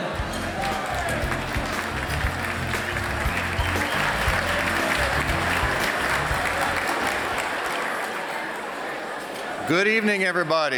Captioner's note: applause